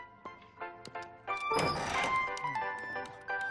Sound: video game beeping

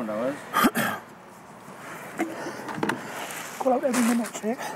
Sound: clears throat

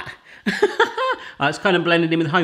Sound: laughs

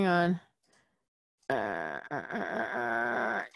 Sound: groaning

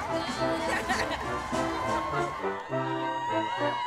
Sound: laughs; cheering

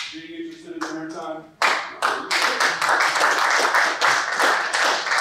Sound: applause

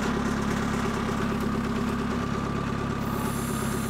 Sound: engine

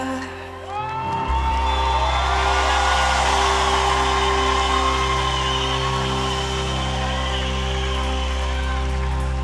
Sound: audience cheering

